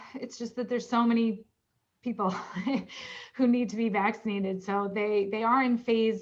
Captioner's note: laughter